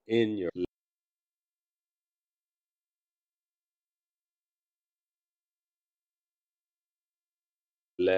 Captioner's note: silence - 39:19 - 39:49